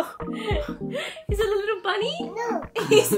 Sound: laughs

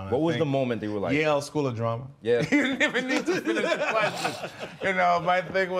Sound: laughs

